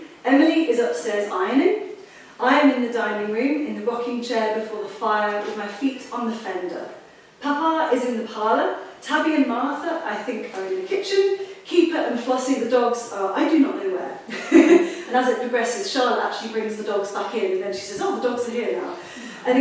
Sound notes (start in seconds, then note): 14.3 laughs